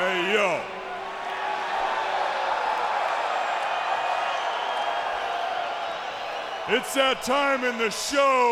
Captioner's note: applause